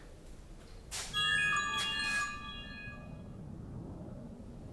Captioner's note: phone jingle